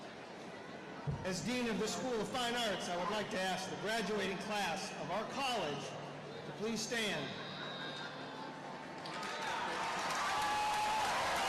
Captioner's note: cheers and applause